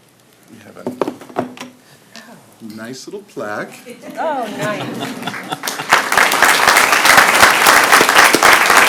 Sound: applause

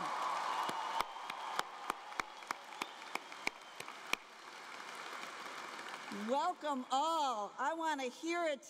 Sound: cheering and Applause

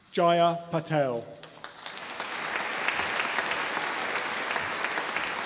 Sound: audience applauding

